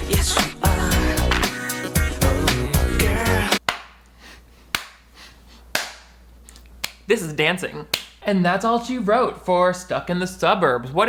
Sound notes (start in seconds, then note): 3.6 clapping